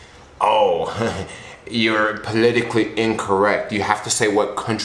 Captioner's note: chuckles